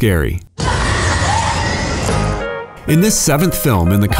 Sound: screams

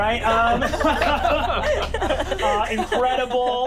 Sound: laughing

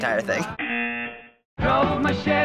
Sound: buzzer

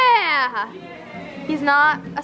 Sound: woman's Voice

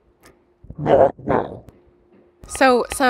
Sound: scary Voice

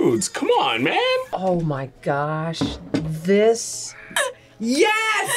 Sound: whispers

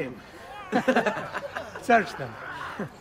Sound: laughs

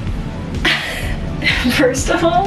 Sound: laughs

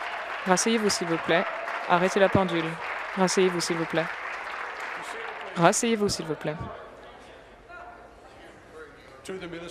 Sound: applause

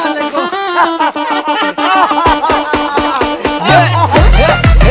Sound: laughing

